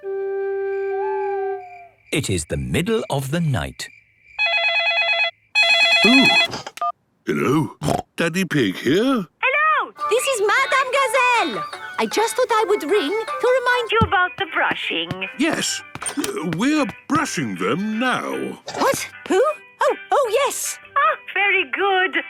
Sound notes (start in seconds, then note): 0.2 owl hooting; 5.6 phone ringing; 7.7 snorting